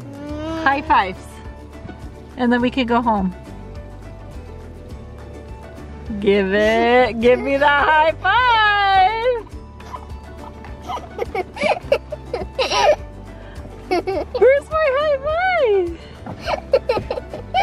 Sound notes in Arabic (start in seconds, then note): 10.4 يضحك